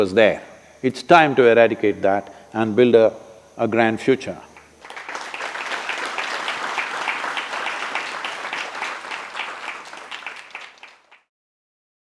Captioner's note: applause